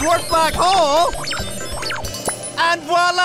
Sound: squeaking/beeping

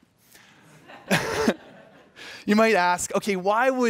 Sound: laughter

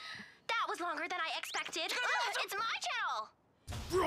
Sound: shouting

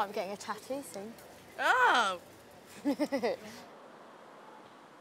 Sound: laughs

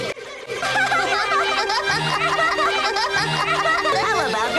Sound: Tai's voice starts speeding up; kids Laughing

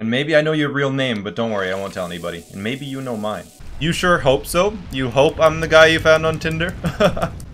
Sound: laugh

